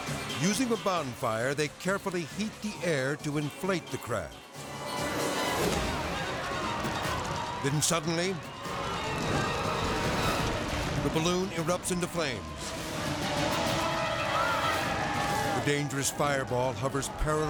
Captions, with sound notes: Using a bonfire, they carefully heat the air to inflate the craft. (tense music) (people clamoring) Then suddenly, (fire whooshing) the balloon erupts into flames. (tense music) The dangerous fireball hovers perilously